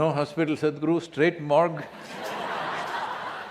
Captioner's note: laughter